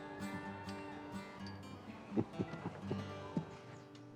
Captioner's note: chuckling